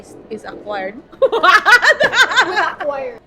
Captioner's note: laughs